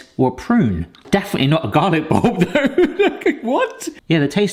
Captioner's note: laughs